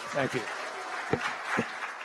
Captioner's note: applause